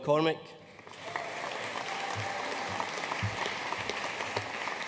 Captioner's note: audience applauding